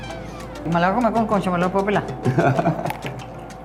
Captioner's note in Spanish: laugh